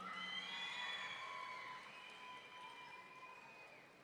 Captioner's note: audience cheering